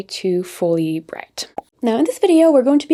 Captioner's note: bubble pops